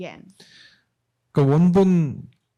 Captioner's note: speaking korean